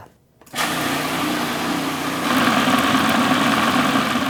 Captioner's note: food processor whirs